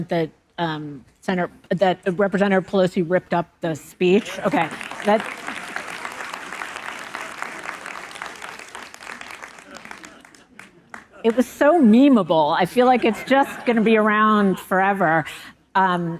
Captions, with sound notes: that Representative Pelosi ripped up the speech? Okay. (audience applauding) It was so memeable. I feel like it's just gonna be around forever.